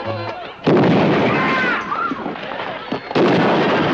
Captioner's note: gunshot; people screaming; gunshot